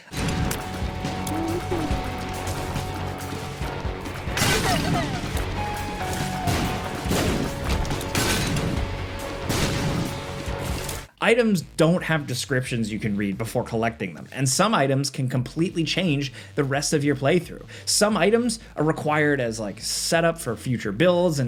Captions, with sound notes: (intense dramatic music) (explosions blasting) Items don't have descriptions you can read before collecting them, and some items can completely change the rest of your playthrough. Some items are required as, like, set up for future builds,